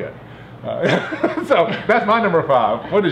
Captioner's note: laughs